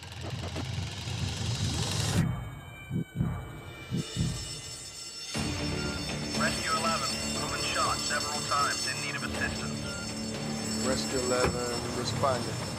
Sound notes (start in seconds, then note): 4.0 alarm ringing